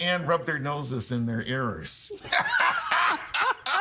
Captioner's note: laughing